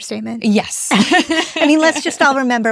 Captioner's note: both laughing